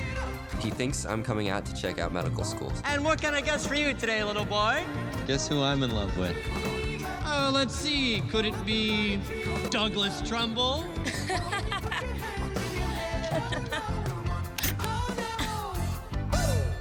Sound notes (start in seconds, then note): 10.9 laughs; 11.0 singing